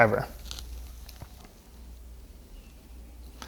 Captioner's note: pause